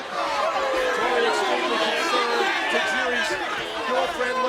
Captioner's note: crowd chattering